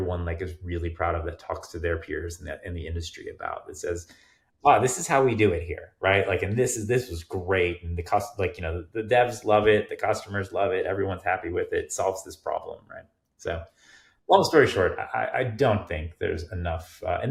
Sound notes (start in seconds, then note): none